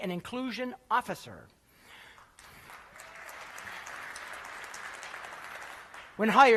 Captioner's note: applause